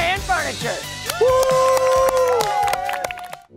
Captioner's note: crowd cheers